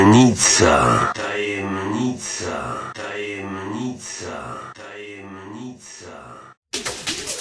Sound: echo

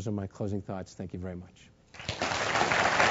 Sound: applause

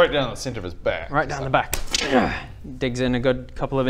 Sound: gggragh!

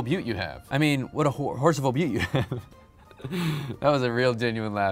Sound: laughs

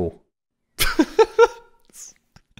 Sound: laughing

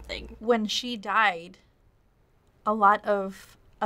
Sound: none

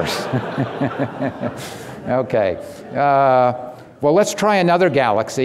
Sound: audience laughing

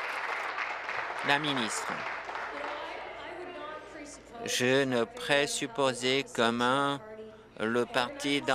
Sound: applause

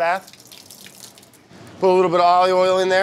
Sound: water running

